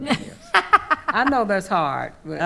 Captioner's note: laughing